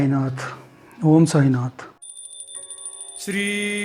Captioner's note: chant